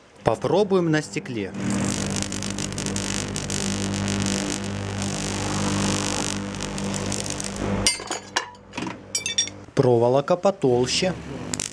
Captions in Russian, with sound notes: Попробуем на стекле... *продолжительный звук тока* *треск стекла* Проволка потолще...